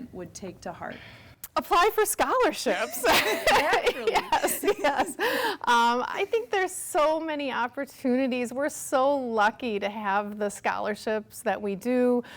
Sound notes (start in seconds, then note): 2.6 laughs; 5.1 sighs